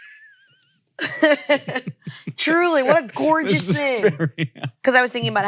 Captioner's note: chuckles